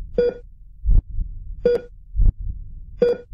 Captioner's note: machine beep